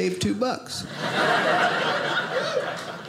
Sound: audience laughing

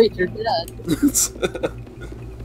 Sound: laughs

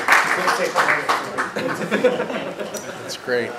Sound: background chatting

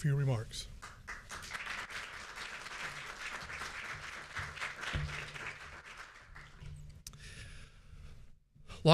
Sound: applause

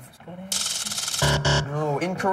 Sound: buzzer

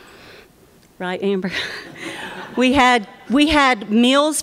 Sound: laughter

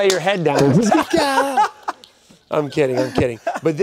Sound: laughing loudly

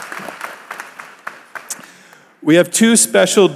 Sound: applause

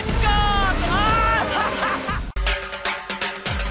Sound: laughs

